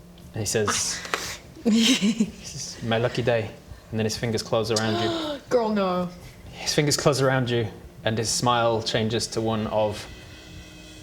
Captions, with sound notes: and he says this is my lucky day and then his fingers close around you *gasp!* oh no His fingers close around you and his smile changes to one of